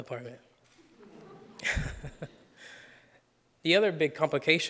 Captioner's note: audience laughs; laughs